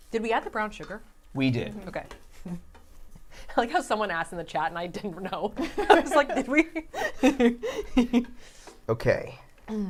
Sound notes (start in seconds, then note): 7.2 laughing